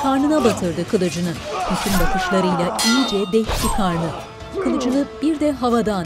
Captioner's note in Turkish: Dövüş sesleri